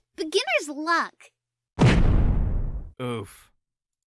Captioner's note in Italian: thud